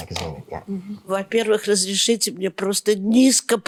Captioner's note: speaking russian